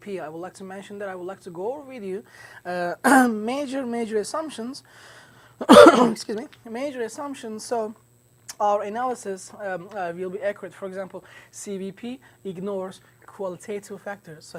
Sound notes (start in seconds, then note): 5.6 clears throat